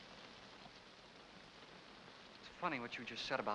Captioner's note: rain patters